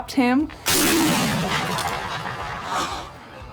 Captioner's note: gunshot